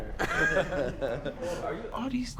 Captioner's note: men laughing